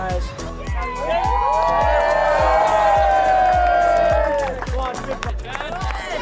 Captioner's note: cheers